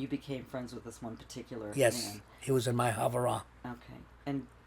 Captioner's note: hebrew